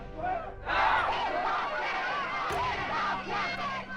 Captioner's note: crowd chanting, shouting